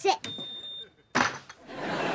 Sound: beeping

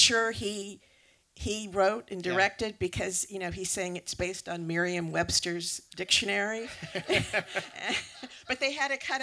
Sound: laughter

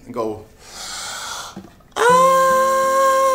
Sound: inhales deeply

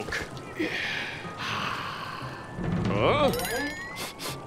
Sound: sighing; sniffing

